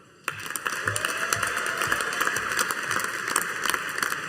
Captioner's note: audience applauding